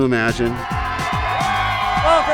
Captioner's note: crowd cheering